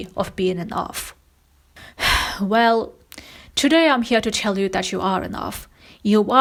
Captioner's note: sighs